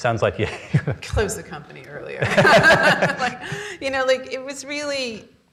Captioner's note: laughs